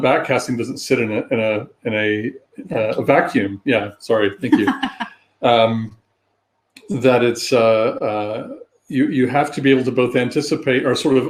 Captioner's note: erm; laughter